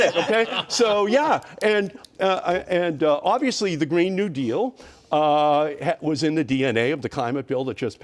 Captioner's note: laughter